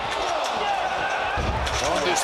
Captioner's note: crowd cheers